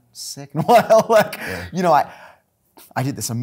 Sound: laughing

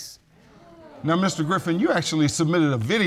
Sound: audience exclaim

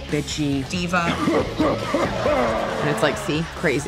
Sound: deep laughter

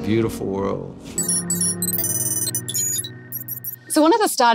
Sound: beeping

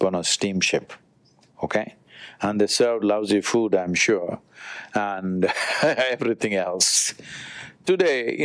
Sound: laughs

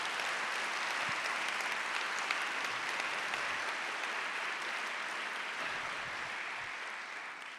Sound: applause

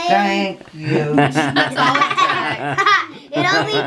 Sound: laughing

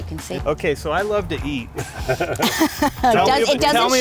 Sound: group laughing

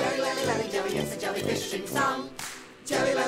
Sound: clap

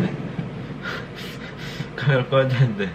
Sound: chuckling

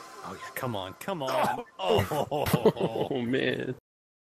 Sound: laughs

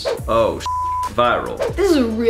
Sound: beeps

